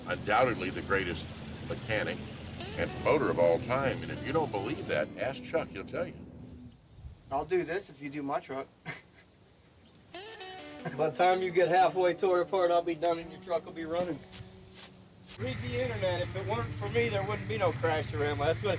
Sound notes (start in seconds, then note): 8.8 man chuckles